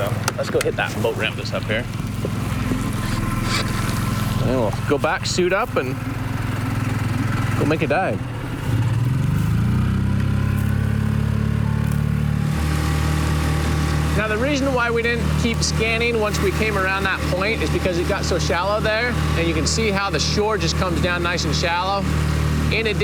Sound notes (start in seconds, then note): 8.8 engine purrs; 12.6 engine whirs